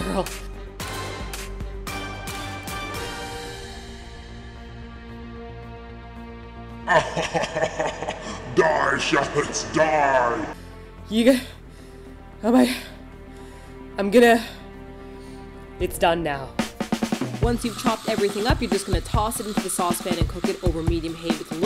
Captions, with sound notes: (evil laughter) DIE SHALLOTS, DIE! You got--- Oh my God... I'm gonna... It's done now. Once you've chopped everything up... You're just going to toss it into the saucepan and cook it over medium heat,